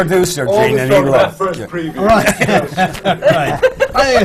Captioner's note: laughter